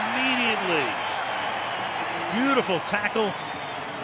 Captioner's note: cheering